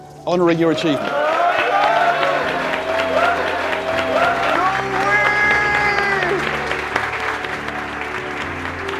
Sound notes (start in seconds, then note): 0.6 cheering and applause; 6.9 applause